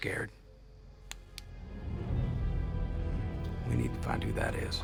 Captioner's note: flashlight clicks